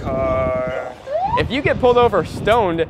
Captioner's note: siren wails